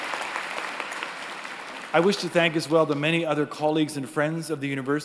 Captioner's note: applause